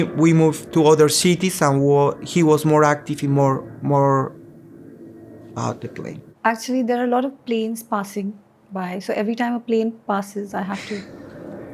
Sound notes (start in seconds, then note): 3.9 airplane noise in the background